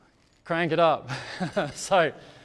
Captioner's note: laughs